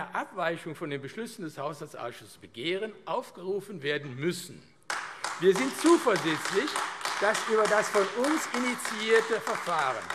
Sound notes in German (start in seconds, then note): 4.8 Beifall AfD